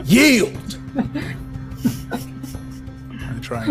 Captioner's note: all laughs